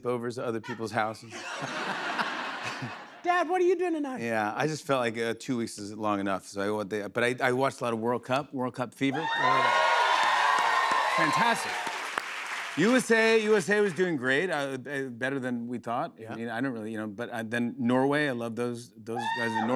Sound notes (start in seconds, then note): 1.3 laughter; 9.1 cheers and applause